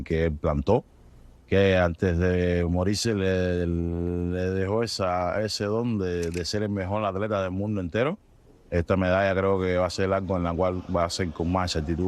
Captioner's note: speaking in a global language